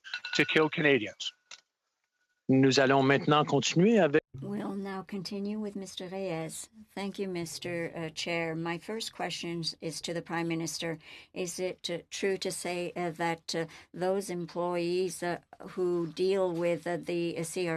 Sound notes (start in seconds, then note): 8.6 speaking French